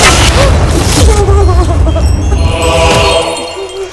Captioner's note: Crying